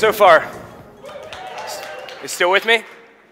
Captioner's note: audience cheering